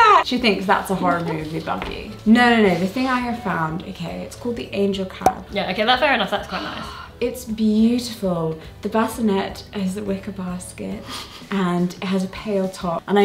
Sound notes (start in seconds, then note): 6.4 sighs